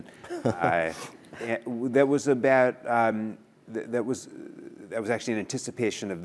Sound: laugh

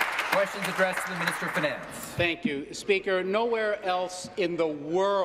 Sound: applause

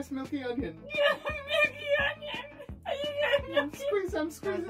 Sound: cries; crying

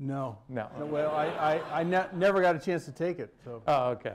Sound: laughter

